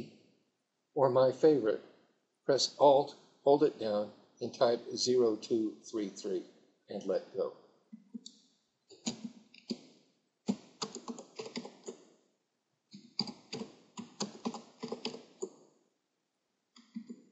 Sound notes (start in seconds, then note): 10.5 typing